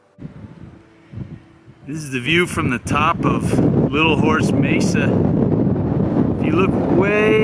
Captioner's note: wind noise